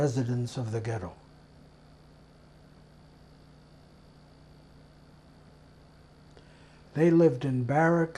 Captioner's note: pauses 6 seconds